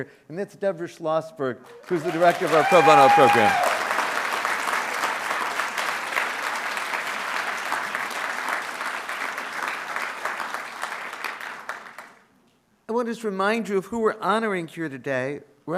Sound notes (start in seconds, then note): 3.8 audience cheering and applauding